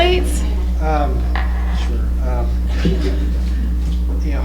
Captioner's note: laughter